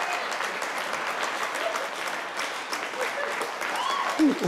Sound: people applauding

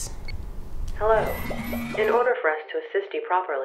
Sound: automated Voice

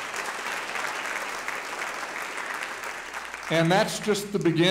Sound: audience applauding

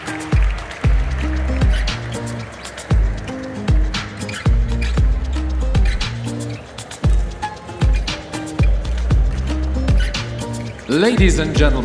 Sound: applause; ♫ Midtempo guitar music ♫

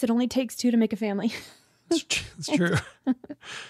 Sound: laughs

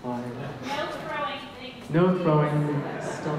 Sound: voiceover

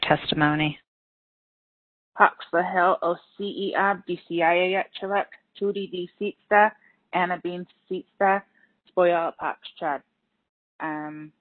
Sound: speaking in native language

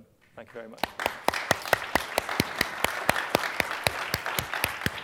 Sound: applause

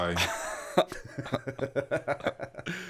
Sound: laughter

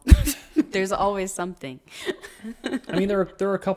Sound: laughs

